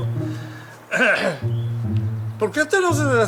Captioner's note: Father Pachi clears his throat